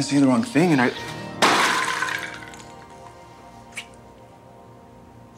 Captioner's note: ornaments clattering